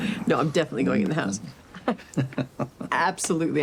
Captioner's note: both chuckling